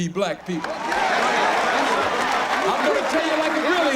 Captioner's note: cheering